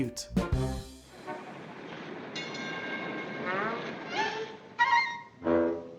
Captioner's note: horns honking; playful music